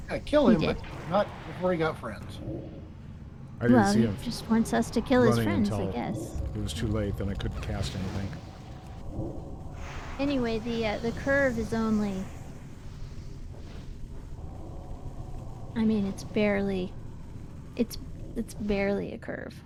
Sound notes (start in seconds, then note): none